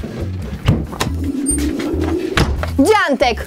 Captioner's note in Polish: Otwieranie drzwi